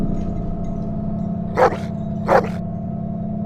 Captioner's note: dog Bark